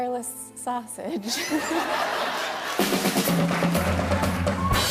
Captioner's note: laughter